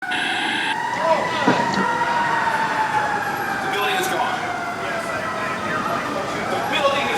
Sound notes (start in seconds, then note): 0.0 alarms blaring